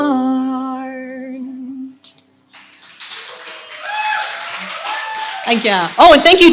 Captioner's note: applause